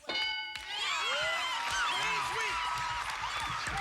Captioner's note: cheers and applause